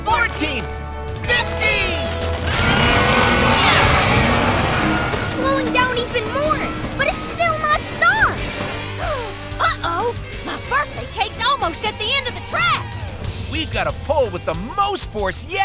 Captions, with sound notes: It's slowing down even more, but it's still not stopped! [gasping] Uh-oh! My birthday cake's almost at the end of the tracks! We've gotta pull with the most force yet!